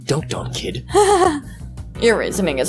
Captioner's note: laughs